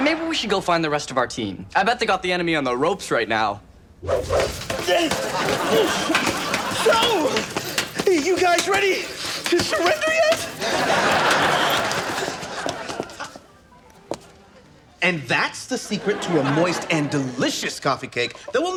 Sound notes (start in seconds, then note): 0.0 audience laughs; 4.2 grunting; 6.8 audience laughs; 10.5 audience laughs